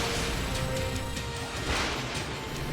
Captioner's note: lightning crashes